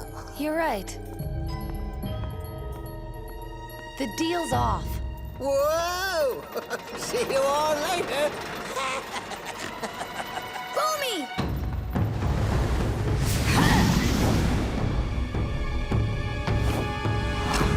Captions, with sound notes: You're right. The deal's off. Whoa! [chuckles] See you all later. [laughing] Bumi!